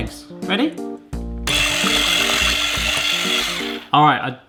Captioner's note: whisk whirring